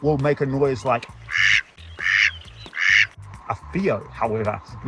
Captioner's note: duck quacking